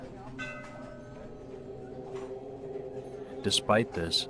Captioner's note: gentle music; bell ringing